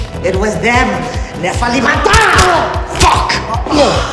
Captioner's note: speaking in foreign language